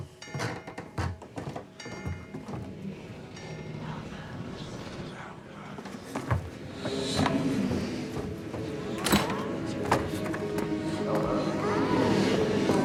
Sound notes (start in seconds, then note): 4.3 distorted voices